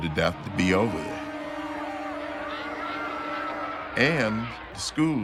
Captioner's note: crowd clamoring